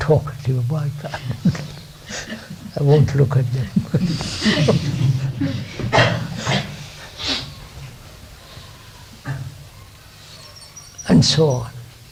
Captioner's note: laughs